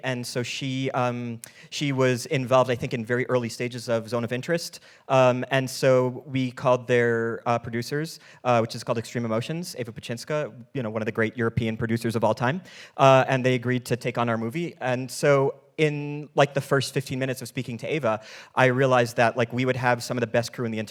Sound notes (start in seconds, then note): none